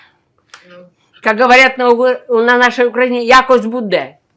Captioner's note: ukrainian